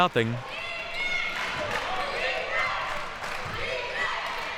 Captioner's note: clapping